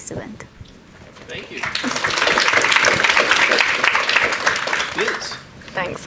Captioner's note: audience applauding